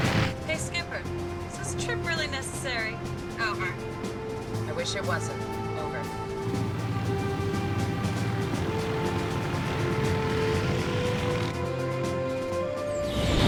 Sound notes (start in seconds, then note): 7.1 dramatic music; 7.1 propellers whirring